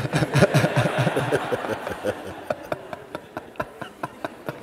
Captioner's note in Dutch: gelach